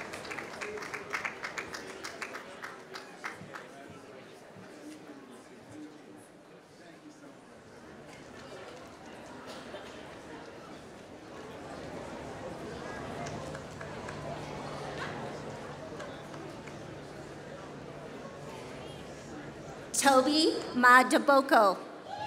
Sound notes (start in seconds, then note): 0.0 applause; 11.5 applause